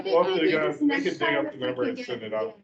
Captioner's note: indistinct chatter